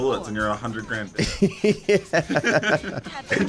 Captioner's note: laughs